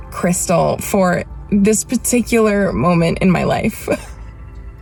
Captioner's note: chuckles